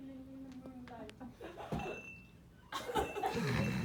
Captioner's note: gasps